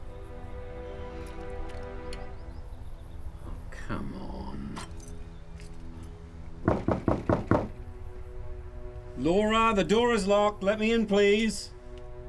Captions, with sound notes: - Oh come on! (door knocking) Laura, the door is locked! Let me in please!